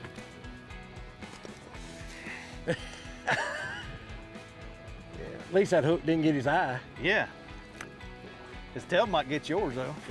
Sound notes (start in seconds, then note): 2.2 laughs